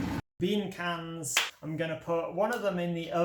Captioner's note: crack